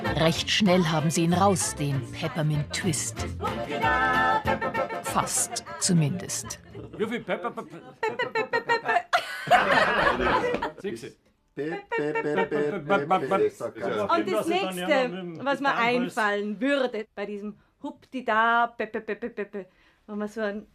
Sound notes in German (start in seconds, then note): 9.5 Lachen